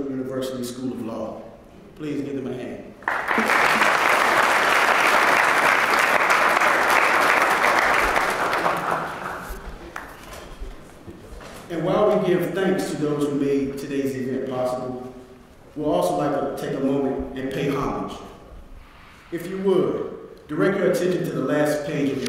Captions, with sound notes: North Carolina Central University school of law, please give them a hand. >> [APPLAUSE] >> And while we give thanks to those who made todays event possible... We would also like to take a moment and pay homage. If you would, go to the last page